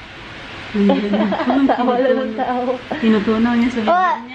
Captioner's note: laughs